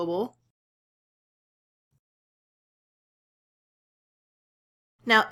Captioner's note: silence